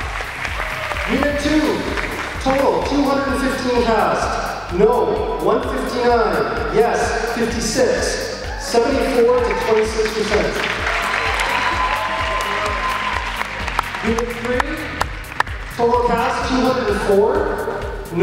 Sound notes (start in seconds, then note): 0.0 applause off camera; 11.0 more applause off camera